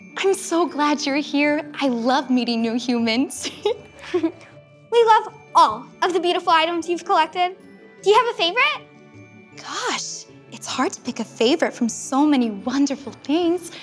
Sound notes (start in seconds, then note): 3.4 giggles